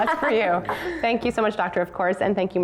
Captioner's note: laughter